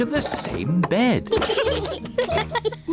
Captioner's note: both giggle